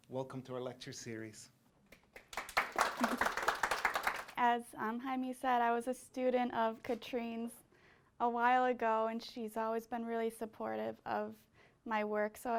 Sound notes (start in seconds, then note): 1.9 applause